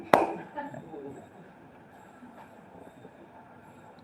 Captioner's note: claps; audience laughs